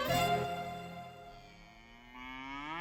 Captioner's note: cow moos